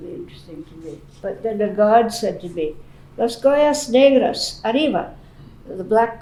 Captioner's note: non-english